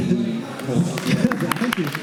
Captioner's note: applause